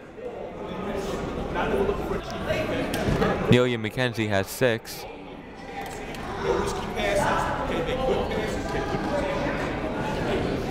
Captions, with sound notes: (people talking in the crowd) Neilia McKenzie has six. (people talking in the crowd)